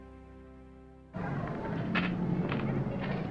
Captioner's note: traffic noise